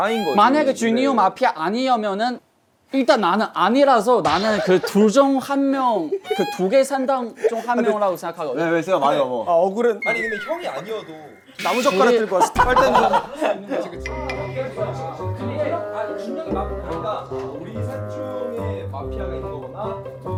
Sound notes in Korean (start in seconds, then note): 4.1 백색 소음